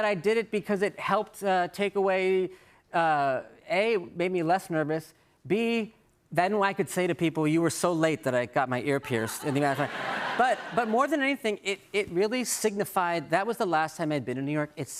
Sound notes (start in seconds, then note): 9.1 laughter